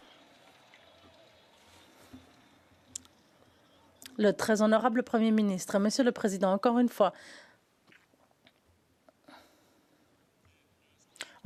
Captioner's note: cheers & Applause